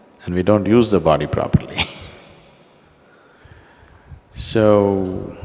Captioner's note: laughs